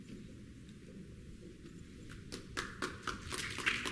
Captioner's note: applause